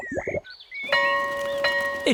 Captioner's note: tummy rumbles; school bell rings